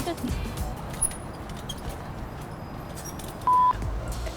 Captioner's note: squeaky bicycle; beeps